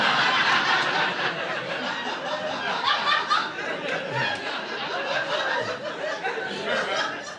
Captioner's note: audience laughing